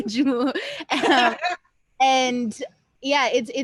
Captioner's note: laughter